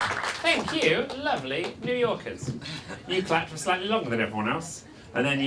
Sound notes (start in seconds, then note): 0.0 audience applauds